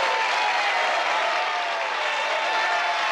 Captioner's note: all cheering